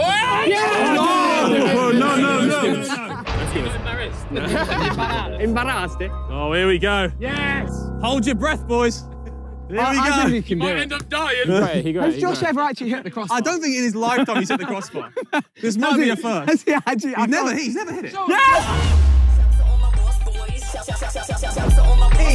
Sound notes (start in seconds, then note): 4.2 players laugh; 5.6 player speaks foreign language; 14.8 players laugh; 18.2 shrieks; 19.7 upbeat hip hop music